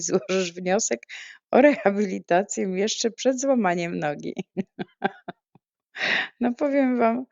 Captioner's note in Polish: śmiech